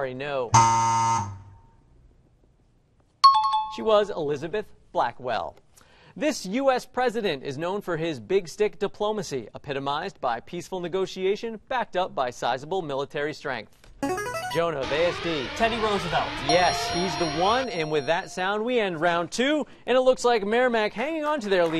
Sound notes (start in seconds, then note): 0.1 buzz; 3.2 bell rings; 13.1 buzzer plays; 14.0 alarm blares; 16.7 ding